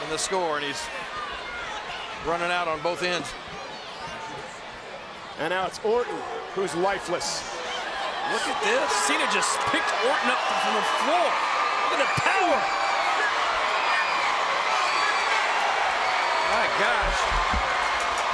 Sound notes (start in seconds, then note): 13.1 crowd cheering